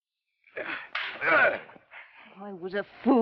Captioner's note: slap; Theodore grunts